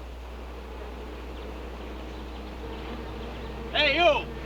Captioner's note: buzzing